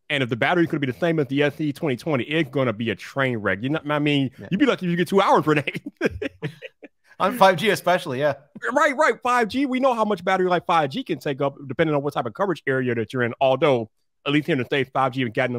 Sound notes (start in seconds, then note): 5.3 laughs; 5.5 chuckles